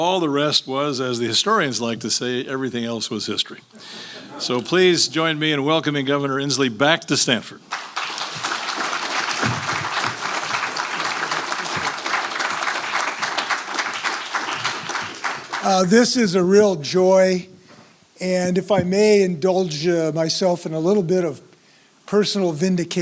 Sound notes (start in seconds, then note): 4.2 laugh; 7.6 applause